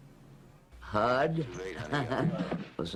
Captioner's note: laughs